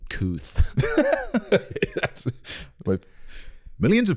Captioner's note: laughing